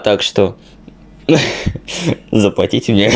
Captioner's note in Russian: вдох